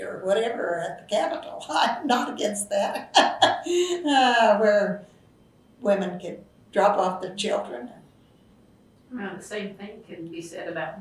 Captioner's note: laughs